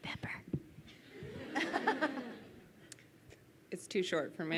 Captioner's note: crowd laughs